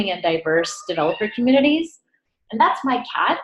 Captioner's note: cat meows